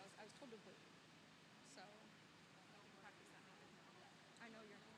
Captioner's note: none